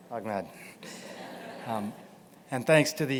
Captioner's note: laughter